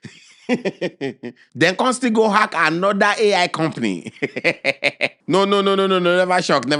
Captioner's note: laughing